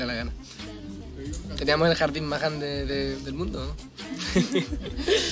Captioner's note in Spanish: Risas